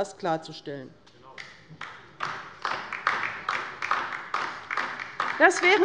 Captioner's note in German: Beifall bei der LINKEN